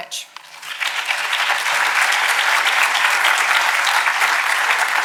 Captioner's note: audience applauding